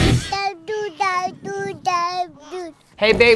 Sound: rock music; baby babbles

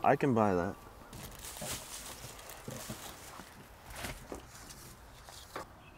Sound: plastic packet rustling

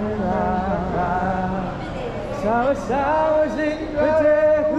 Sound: campers ooh-ing

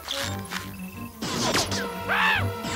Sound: whirring

